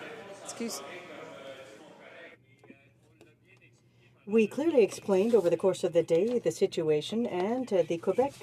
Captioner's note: some Applause